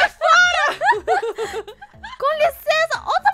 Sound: laugh

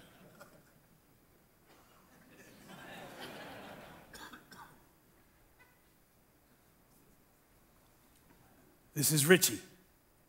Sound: uncomfortable silence

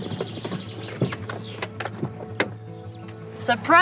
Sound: car engine turns off

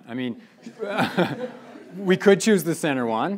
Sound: laughing

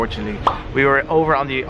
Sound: pops

